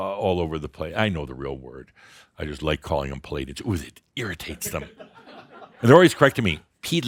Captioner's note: more chuckles